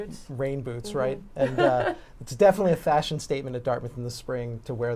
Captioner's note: laughter